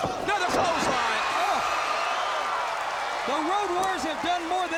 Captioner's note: crowd cheering